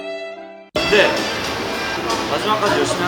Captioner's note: confident